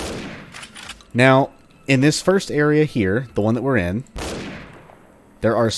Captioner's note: bam; bam